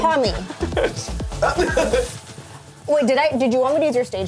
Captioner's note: laughs